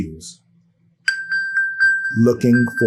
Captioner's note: electronic bell